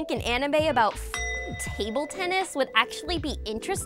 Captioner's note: bell ringing